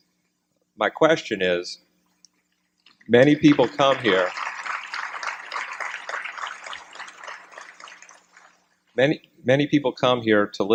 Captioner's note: applause